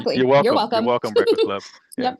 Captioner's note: laughs